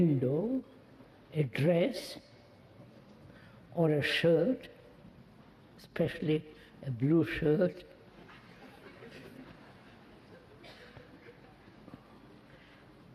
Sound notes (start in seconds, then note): 8.3 laughter